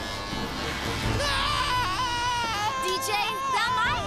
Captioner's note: screaming